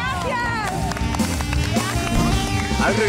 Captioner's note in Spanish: Aplausos